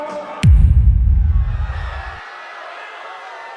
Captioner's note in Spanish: Gritos